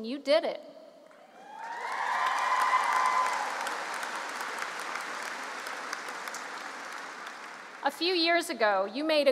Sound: cheering

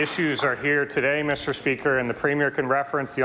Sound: applause

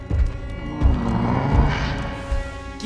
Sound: Appa grunting

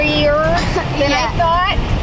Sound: laughing

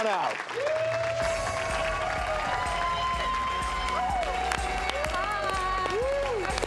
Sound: audience cheers and applauds

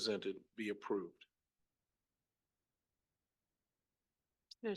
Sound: silence

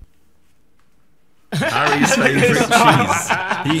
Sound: everyone laughing

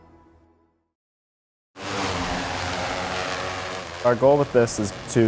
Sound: drone whirring

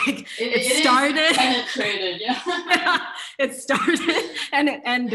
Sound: shared laughter

